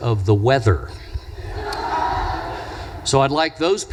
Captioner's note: audience laughs